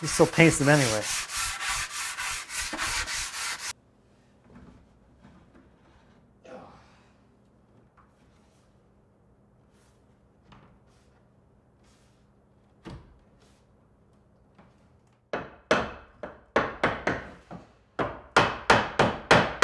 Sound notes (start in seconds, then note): 1.7 sandpaper scratching; 6.7 grunts; 15.5 hammer pounding